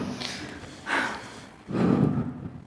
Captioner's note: sighing